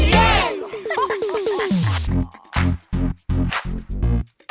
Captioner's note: sharks laugh